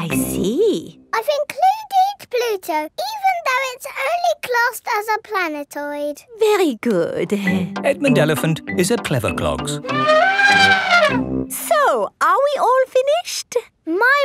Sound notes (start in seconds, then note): 9.8 trumpeting